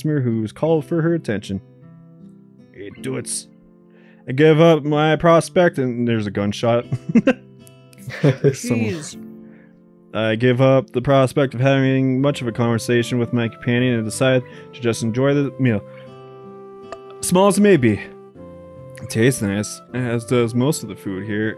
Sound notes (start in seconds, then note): 8.0 chuckles; 16.6 belches